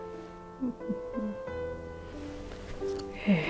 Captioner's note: hums in satisfaction; sighs